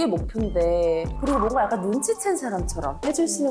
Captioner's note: uneasy sound effect